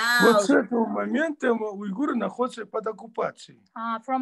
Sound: in Russian

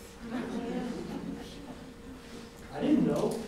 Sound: audience chuckles

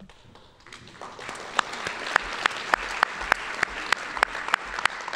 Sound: audience applauding

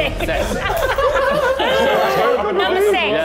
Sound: Sidemen laughing

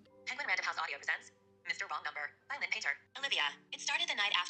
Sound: audiobook playing

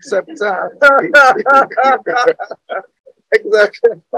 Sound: laughter

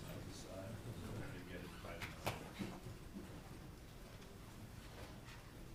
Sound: speaking distantly

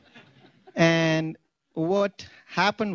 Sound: laughter

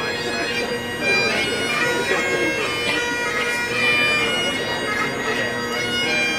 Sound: speaking faintly; bagpipe skirling; chattering and laughing

